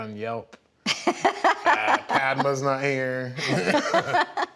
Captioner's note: laughs; laugh